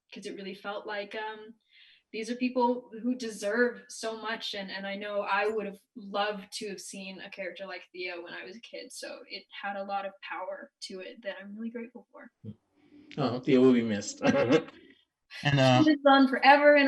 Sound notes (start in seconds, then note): 13.2 chuckling